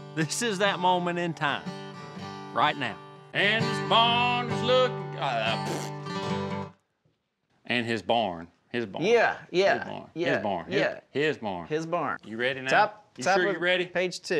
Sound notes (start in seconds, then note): 5.4 spits